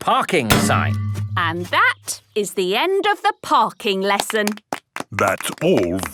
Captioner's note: clapping